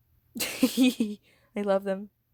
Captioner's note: cute fangirl giggle